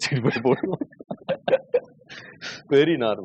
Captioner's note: laughter